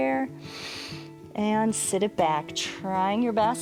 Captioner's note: inhales